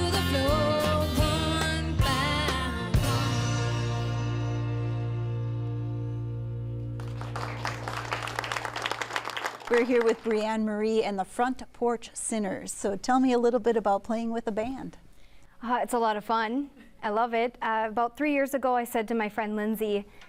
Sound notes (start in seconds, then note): 6.9 applause